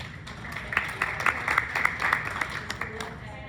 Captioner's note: clapping